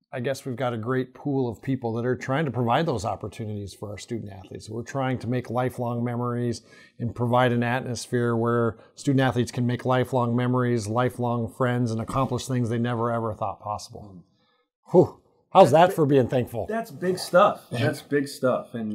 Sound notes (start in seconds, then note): 14.3 exhales